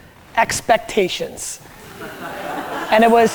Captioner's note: group laughter